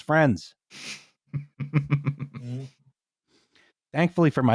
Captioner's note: chuckles